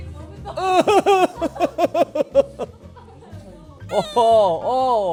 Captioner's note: cries